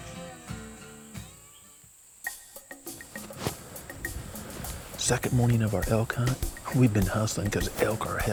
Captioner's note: whispering